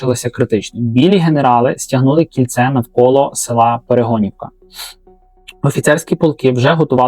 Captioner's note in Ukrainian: сопіння